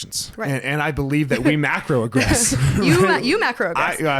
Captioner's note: laughs